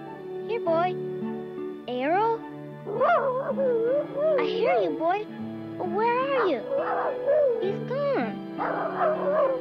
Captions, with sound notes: Here, boy. Arrow? (Arrow whining) I hear you, boy. But where are you? (Arrow barking) He's gone. (Arrow barking)